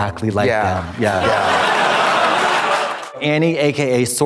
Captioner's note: audience laughs